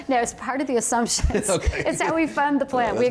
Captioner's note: laughter